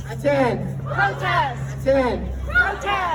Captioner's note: crowd